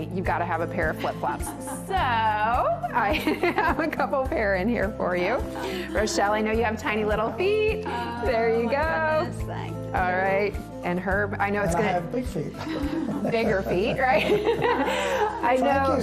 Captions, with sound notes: you gotta have a pair of flip flops so, I have a couple pair in here for you. Rochelle, I know you have tiny little feet. There you go! - Oh my goodness! Thank you! - All right. And Herb, I know it’s gonna-- - And I have big feet! (everyone laughs) - Bigger feet, right?